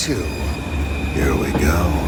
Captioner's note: air brakes and transit train starting